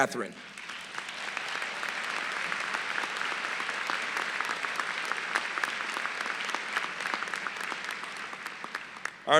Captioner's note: applause